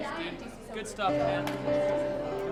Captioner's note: students chatter